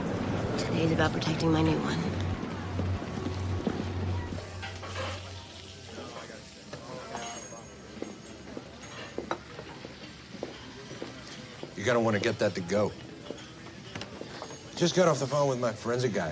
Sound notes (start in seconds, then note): none